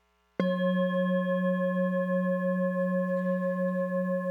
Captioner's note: metal bowl vibrating